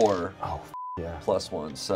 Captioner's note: beep